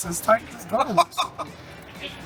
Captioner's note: laughing